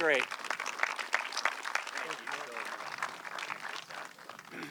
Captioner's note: audience clapping